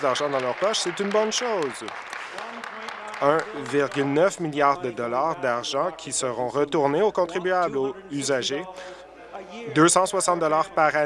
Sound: applause

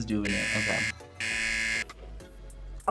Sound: buzzer

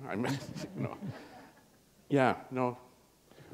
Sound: chuckle

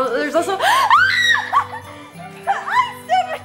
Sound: girl screaming

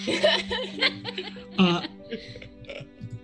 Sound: group laughs

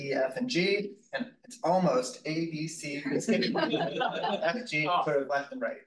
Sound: group laughs

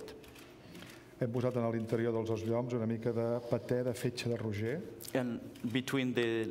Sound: speaking catalan

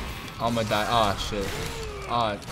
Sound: Garchomp growls

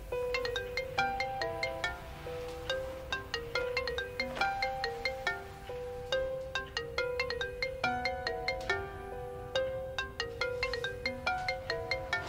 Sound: mobile ringing

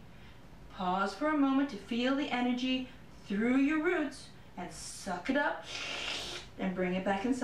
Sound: sucking Sound

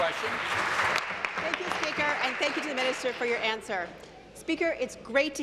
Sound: applause

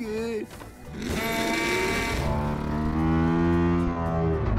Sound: honks horn

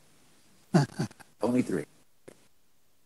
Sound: laughs

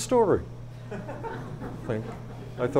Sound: audience laughs

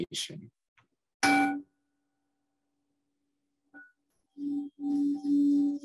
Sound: tones

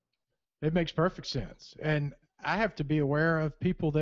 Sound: voiceover

